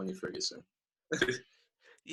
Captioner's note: laughing